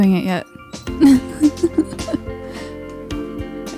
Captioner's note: laughs